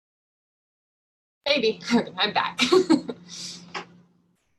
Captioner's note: laughter